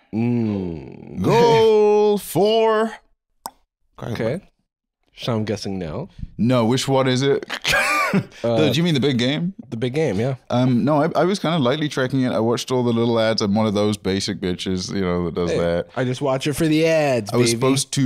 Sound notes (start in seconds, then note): 3.4 clicks tongue; 7.4 laughs